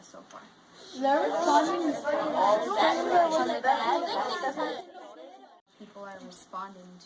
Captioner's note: students discuss